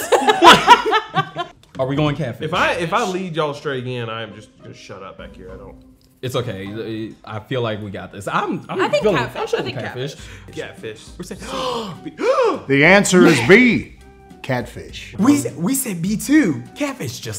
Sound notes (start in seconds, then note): 0.0 laughing; 11.4 gasping